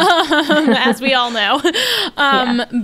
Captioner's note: they laugh